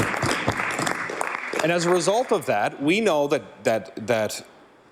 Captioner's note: some Applause